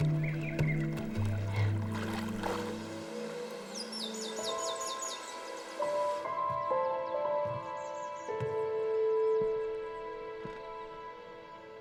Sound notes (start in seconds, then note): 0.1 slow dramatic music; 3.9 birds chirping; 4.7 gentle music